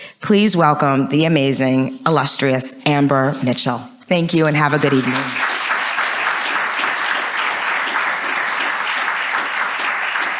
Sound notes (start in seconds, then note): 4.7 audience applauds